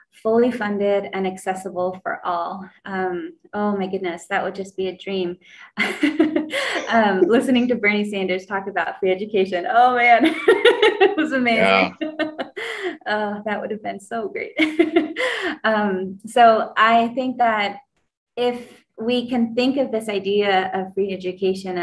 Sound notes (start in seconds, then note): 6.4 laughs; 10.2 laughs; 14.6 laughs